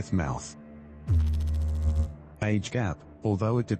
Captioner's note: electrical noise